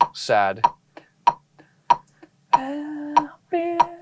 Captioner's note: tapping sound